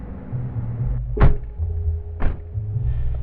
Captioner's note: doors slam